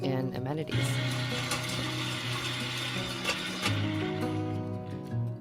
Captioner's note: earth auger engine roaring; gentle music